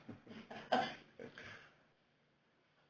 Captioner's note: laughter